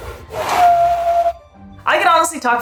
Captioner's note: background music; Balzak makes whistling vocalization